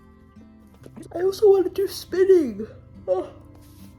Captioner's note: while yawning